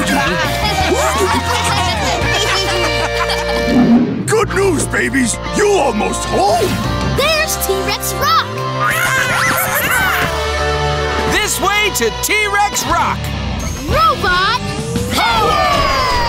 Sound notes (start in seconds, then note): 0.0 laughing; 8.4 celebrating